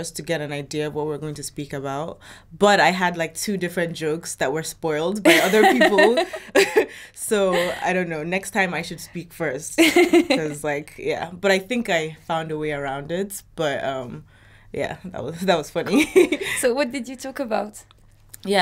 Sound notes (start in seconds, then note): 5.3 chuckles; 5.3 laughs; 15.4 laughs